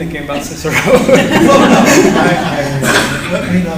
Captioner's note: laughter